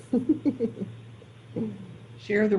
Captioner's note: laughing